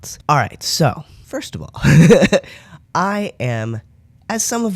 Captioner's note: laugh